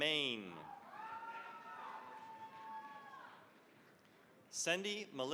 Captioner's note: cheering, applause